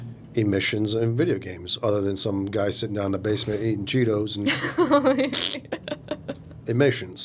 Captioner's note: laughing